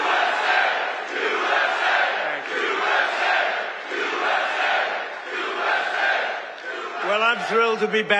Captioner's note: audience chants "USA"